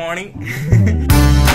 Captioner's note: laugh